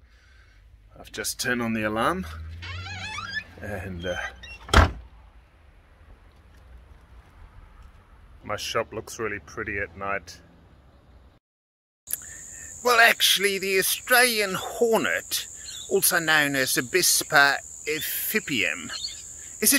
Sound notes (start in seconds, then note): 2.5 door squeaks; 4.0 door closes